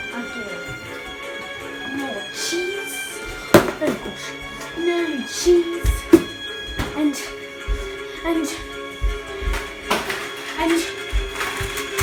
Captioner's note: cries